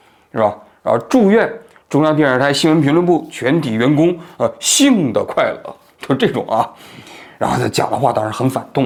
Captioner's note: in accents; in accents